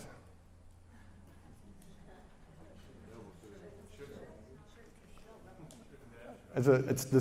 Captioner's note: audience murmuring